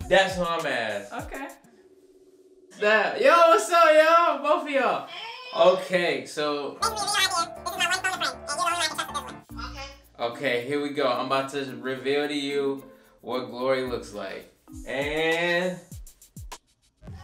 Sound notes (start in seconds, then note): 6.8 fast-speed tape playing